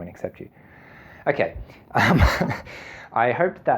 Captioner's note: laughing